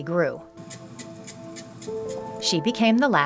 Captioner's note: contents tapping